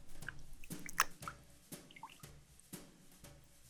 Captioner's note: water drips